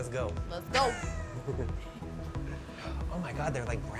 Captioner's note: laughs